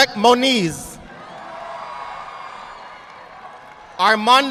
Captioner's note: audience applauding